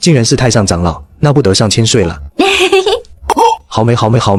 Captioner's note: chuckles